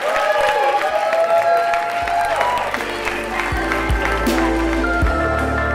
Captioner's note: audience cheers and applauds